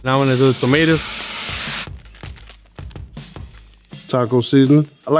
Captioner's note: pan sizzling